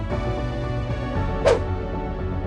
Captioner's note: whoosh!